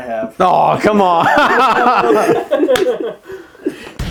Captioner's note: laughs